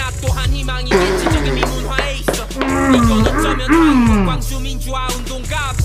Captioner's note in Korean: 수녀식 분출과 물개박수